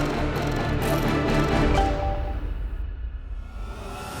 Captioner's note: mobile chiming